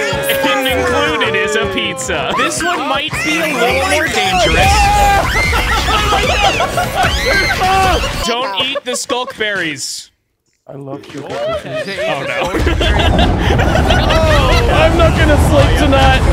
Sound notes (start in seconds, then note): 0.0 all cheering; 5.4 all screaming; 11.0 all laughing